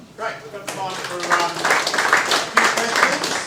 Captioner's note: audience applauding